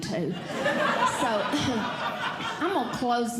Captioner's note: audience Laughing